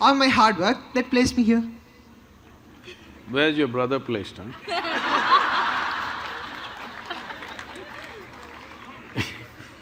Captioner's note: laughter